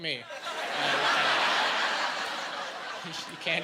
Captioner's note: laughing